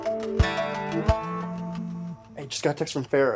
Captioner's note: phone vibrates